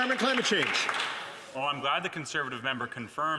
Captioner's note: some Applause